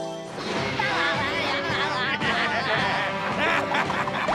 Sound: laughing

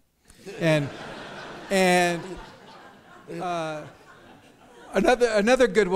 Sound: audience laughs

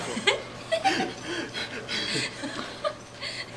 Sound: laughing

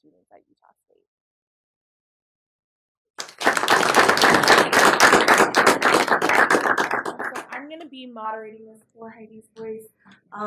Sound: applause

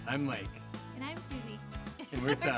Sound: laughs

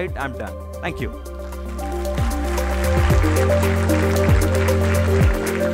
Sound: applause

